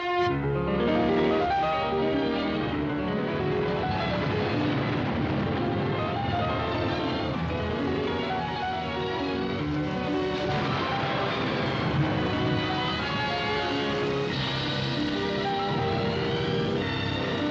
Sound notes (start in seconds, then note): 0.1 lively piano music; 10.0 thunder crashing; 14.3 dramatic orchestral music